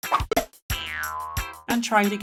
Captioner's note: Koopa shell sound effect